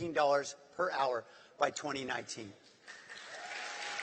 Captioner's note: applause